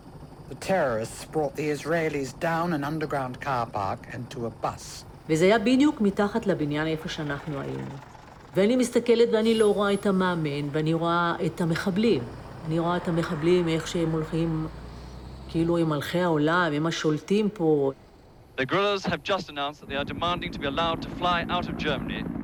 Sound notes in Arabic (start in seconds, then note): 5.2 الصوت المنطوق باللغة العبرية